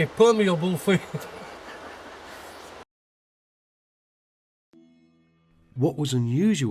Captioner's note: laughs